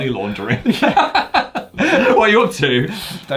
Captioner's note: both laugh